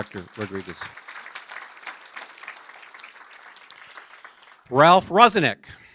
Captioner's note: applause